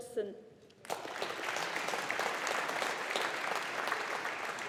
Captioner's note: audience applauding